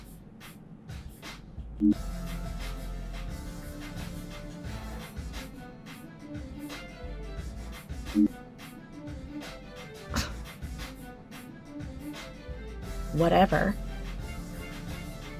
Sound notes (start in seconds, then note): 10.1 scoffs